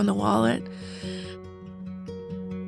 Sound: inhales

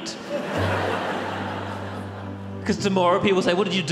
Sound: audience laughs

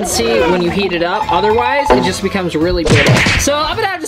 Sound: murmurs

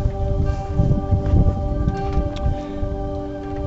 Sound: ambient music; wind gust; ambient music

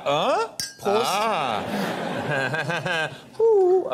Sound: glasses ding loudly; laughs softly

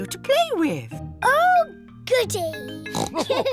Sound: oinks; all laugh

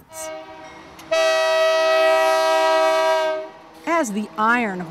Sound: train horn blows

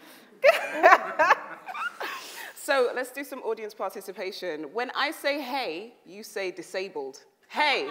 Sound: laughs

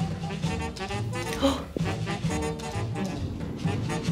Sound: playful jazz music; gasps

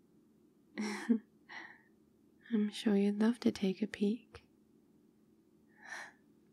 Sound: laughs

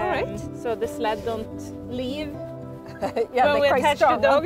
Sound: chuckles

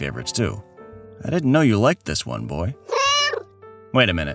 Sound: meow

